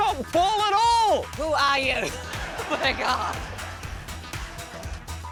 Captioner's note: laughs